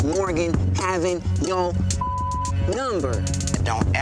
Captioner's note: beep